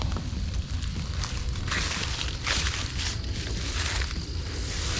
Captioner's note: leaves rustling